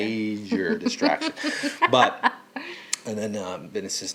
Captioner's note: laughing